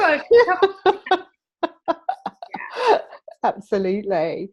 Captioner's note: laughter